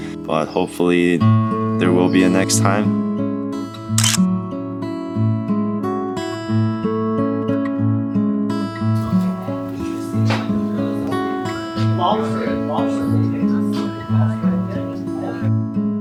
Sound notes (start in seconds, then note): 4.0 camera clicks; 4.8 calm acoustic guitar music; 8.9 people chattering